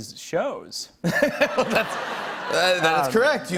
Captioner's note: laughter